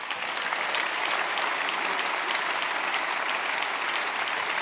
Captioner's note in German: Applaus